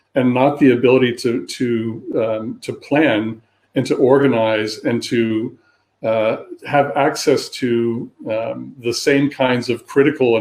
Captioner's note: erm